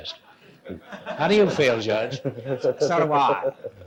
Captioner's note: audience laughs